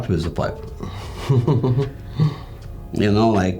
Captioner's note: chuckling